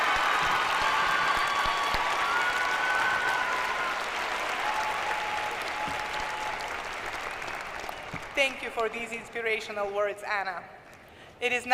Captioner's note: applause